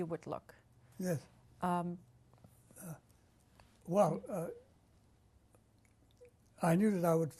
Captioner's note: pauses for 3 seconds